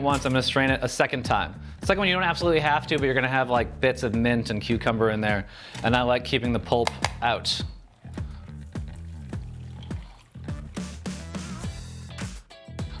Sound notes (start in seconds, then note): 7.8 liquid sloshing